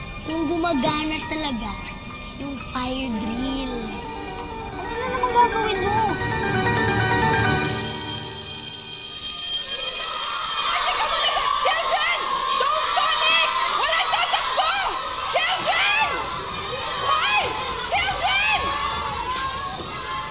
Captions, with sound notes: if the fire drill really works. What are you going to do? [alarm blaring] -[children clamoring] -Wait, children! Don't panic! Don't run! Children! Psst, hey! Children!